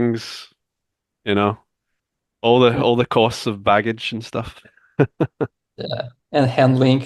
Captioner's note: laughs